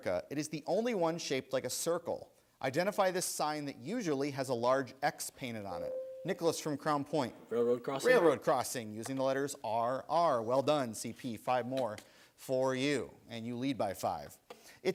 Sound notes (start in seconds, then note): 5.9 buzzer sounds